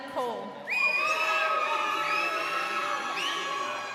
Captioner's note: crowd cheering